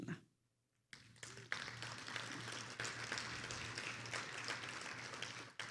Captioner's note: attendees applauding